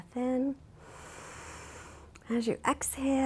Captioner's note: inhales deeply